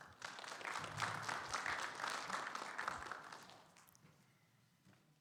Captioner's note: audience applauding